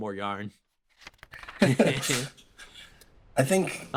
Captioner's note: laughs